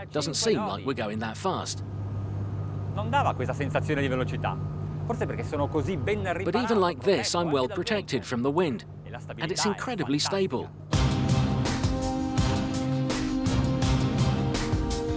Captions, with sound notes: Doesn't seem like we're going that fast. (speaking foreign language) But even like this, I'm well protected from the wind, and it's incredibly stable. (cool, electronic music)